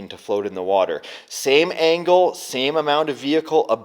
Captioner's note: none